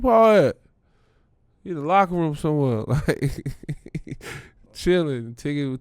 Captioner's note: laughs